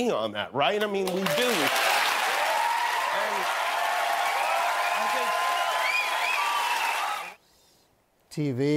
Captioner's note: cheers and applause